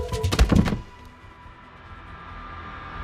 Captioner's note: books clattering; suspenseful music